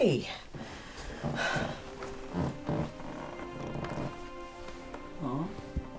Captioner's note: gentle music; sighs